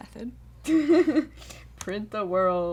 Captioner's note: laughter